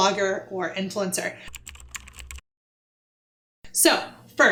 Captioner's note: typing